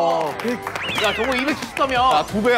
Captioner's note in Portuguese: Aplausos